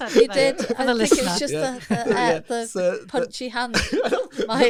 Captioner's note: laughter